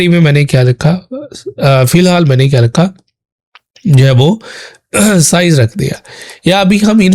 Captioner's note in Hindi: गला साफ़ करने की आवाज़